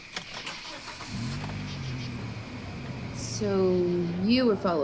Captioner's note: engine rumbling